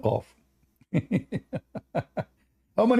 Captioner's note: Ketawa